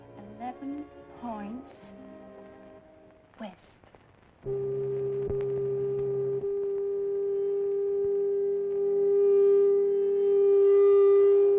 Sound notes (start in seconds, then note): 4.5 tool buzzing; 7.8 suspenseful music